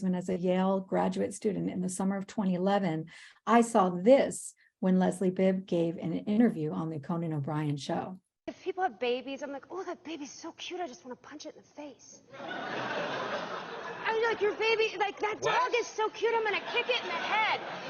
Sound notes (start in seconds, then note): 12.4 audience chuckling